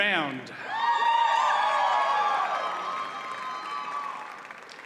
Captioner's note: audience cheers and applauds